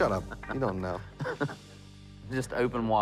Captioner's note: laughs